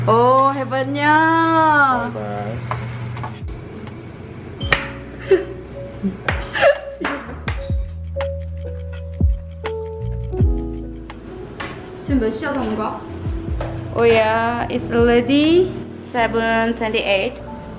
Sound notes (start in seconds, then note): 6.5 laughs